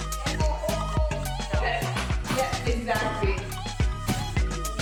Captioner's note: indistinct chatter